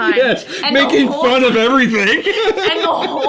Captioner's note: continues laughing